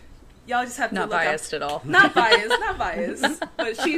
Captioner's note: laughter